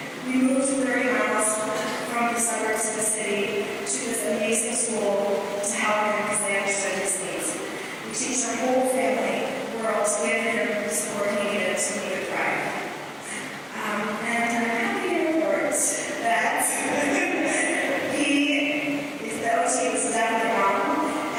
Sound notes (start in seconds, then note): 16.9 laughter